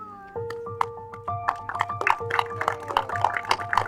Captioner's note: people clapping; gentle music